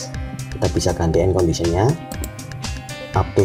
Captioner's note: click